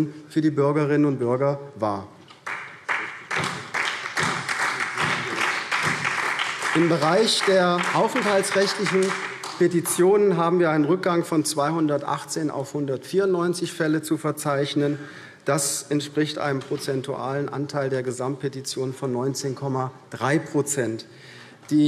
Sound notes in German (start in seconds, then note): 2.4 Beifall SPD